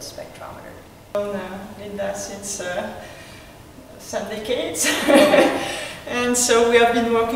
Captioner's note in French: rires